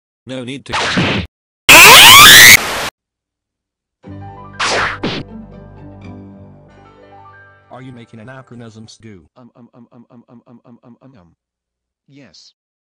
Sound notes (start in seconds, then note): 1.7 screams loudly because of that; 1.7 Static; 9.3 guy off-screen stumbles saying "Um" repeatedly